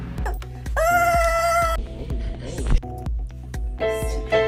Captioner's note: squealing; piano playing